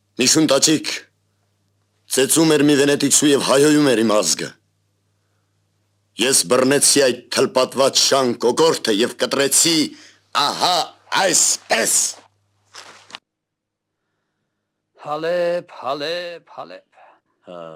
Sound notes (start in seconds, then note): none